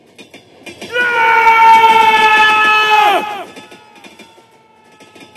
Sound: screaming

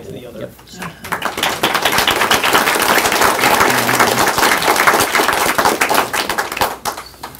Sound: applause

